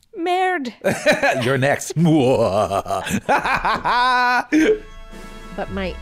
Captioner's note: evil laughing